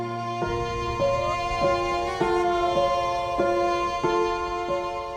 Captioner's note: light thoughtful music; wolf howling